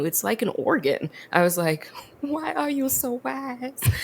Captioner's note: laughs